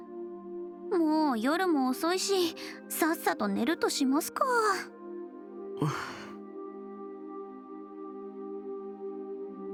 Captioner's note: sigh